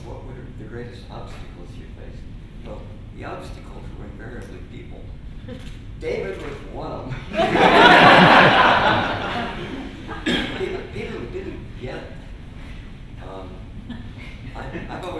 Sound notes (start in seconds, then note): 7.2 laughter